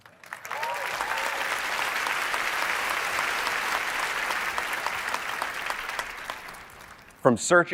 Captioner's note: applause